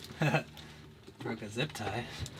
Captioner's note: chuckling